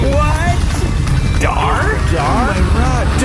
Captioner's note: growling